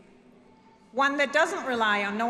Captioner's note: none